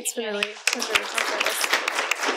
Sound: applause

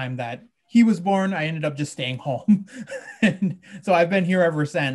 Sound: he laughs

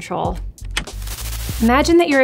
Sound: TV remote clicks

